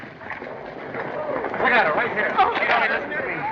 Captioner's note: commotion